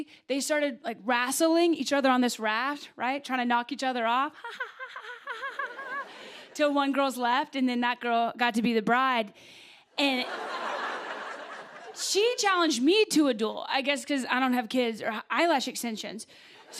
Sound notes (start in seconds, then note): 4.4 laughing; 10.2 laughter